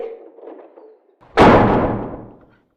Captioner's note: door slams